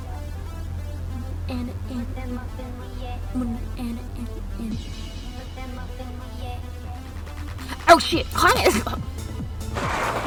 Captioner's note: humming along to song